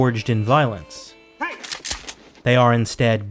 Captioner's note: cocks gun